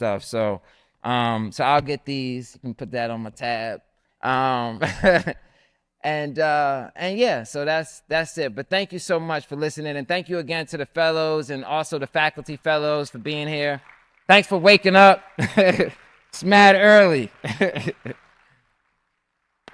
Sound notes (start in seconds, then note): 5.4 laughs; 13.4 audience applauds; 17.4 laughs